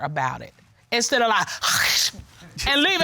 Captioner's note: imitates hissing